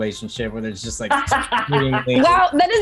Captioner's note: laughing